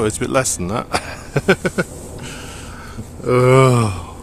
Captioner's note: laughs